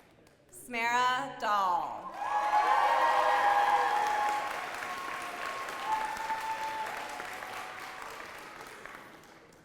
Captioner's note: applause